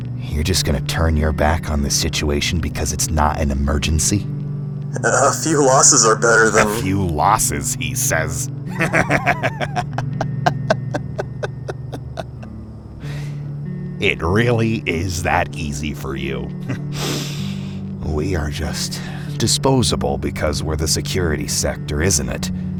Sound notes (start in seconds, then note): 8.7 Houston laughs; 10.2 laughter turns into sobbing